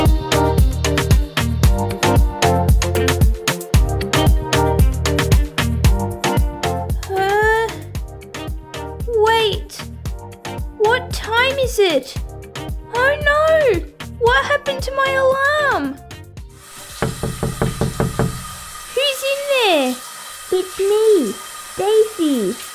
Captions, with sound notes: Barbie - Chelsea Has a Bad Day Huh...? Wait! What time is it? Oh no! What happened to my alarm?! (Knock! Knock! Knock! Knock! Knock!) Who's in there? It's me, Stacie